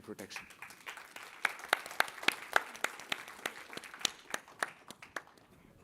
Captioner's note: applause